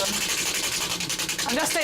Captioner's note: wheel spinning